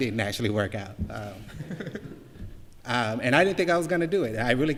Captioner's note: laughter